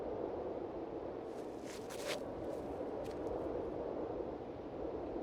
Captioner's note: footsteps crunching